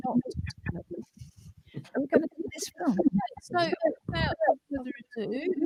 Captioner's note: distorted audio